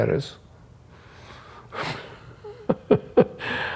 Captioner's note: laughs